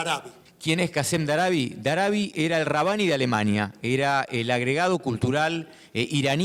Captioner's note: speaking in foreign language